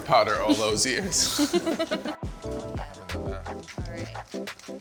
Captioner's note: laughs